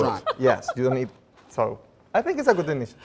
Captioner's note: laughing